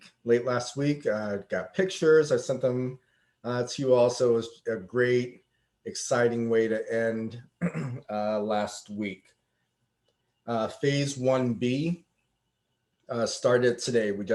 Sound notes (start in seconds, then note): 7.5 clears throat